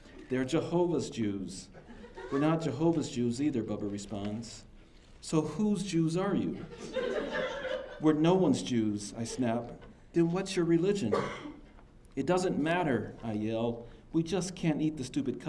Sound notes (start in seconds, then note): 6.5 laughter